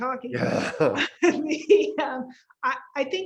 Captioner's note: laughs